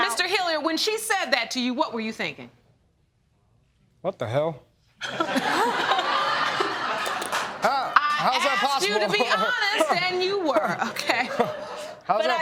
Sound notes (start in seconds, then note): 5.0 laughter